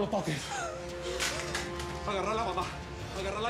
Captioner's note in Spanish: sollozos